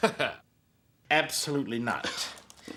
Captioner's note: laugh